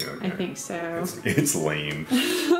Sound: laughs

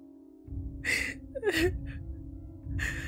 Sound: May sobs

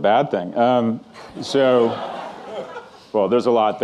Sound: audience laughing

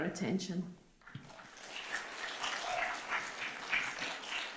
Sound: applause

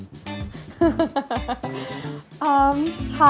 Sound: laughing

